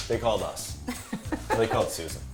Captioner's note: laughter